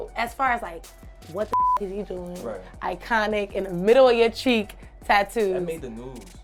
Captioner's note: beep